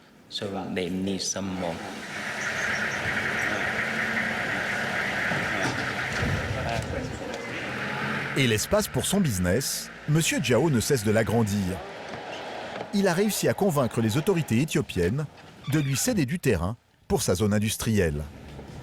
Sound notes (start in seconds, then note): 2.5 van engine rumbling